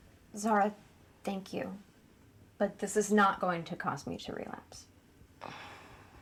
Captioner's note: none